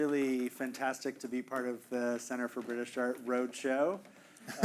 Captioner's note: chuckling